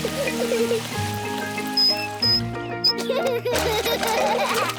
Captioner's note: both giggle